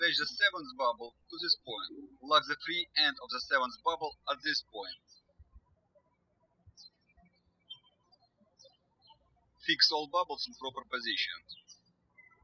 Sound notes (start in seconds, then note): 6.0 birds chirping